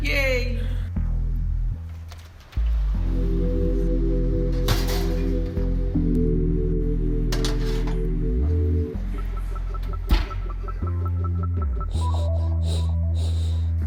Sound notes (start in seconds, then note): 1.5 dramatic music; 7.3 pans clattering